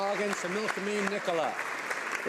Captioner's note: applause